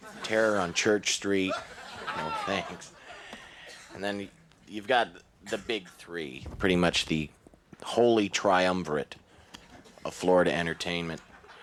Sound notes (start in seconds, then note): 3.2 chuckles